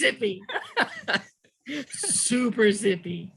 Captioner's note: laughing